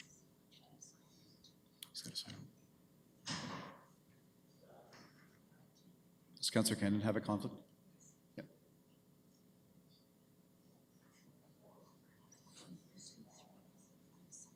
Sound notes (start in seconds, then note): none